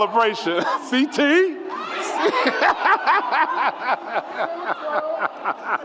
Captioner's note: laughs; audience cheers